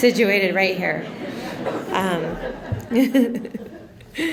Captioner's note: laughter